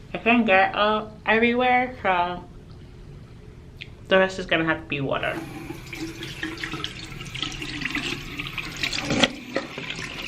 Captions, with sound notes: I can't get everywhere so, the rest is gonna have to be water. (water running)